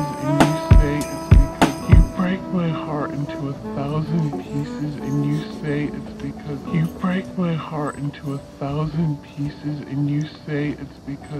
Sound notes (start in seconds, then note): 5.5 light steps walking down the stairs